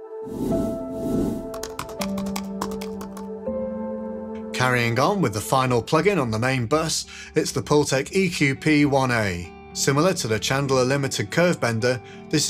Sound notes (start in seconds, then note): 0.1 gentle music; 1.3 keyboard tapping